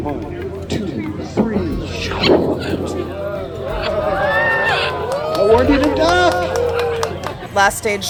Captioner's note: triumphant chirp, audience oohs